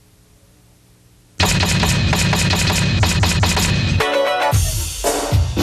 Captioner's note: letters reverberating; uptempo urban music